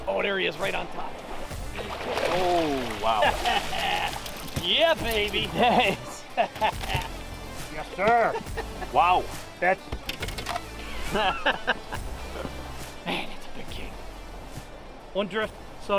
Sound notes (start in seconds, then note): 3.1 laughs; 11.0 laughs; 11.3 rock music